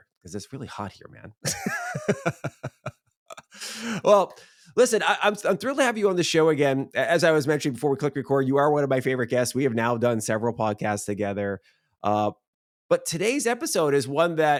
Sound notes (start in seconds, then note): 3.3 laughing